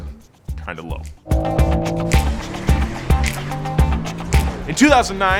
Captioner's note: upbeat music; engine roars